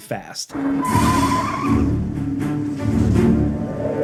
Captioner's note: tires squealing; dramatic music